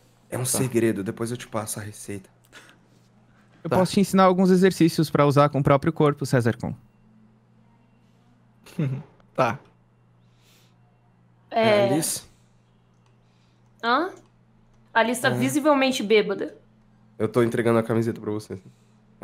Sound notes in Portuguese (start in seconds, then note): 8.6 risadinha